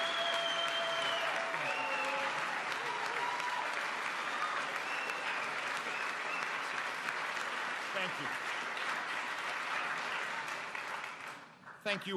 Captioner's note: applause